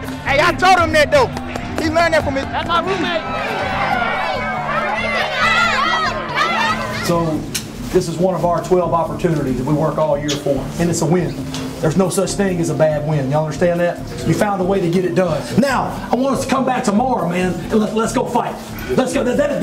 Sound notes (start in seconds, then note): 3.6 cheering